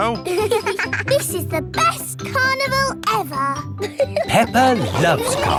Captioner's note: both giggling